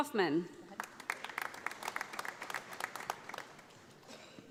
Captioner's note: audience applauding